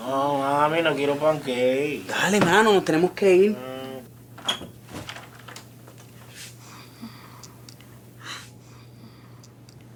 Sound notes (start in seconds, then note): 0.1 Billy hoarse voice; 4.4 door opens